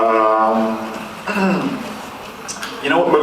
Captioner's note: clears throat